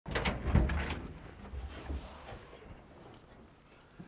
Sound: vehicle rustling

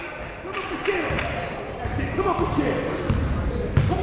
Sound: clapping

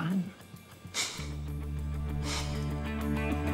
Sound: chuckles

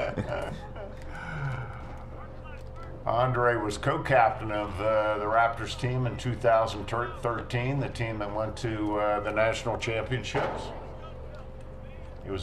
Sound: laughter

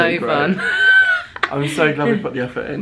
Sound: laughing

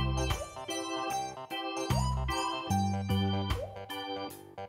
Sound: laughs

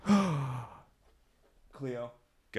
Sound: gasp

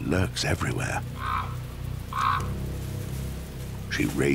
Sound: crow caws

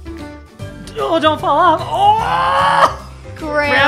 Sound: laughs

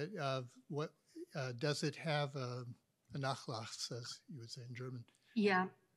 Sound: speaks German

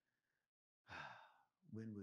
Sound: exhales

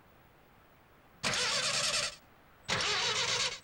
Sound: engine stalling

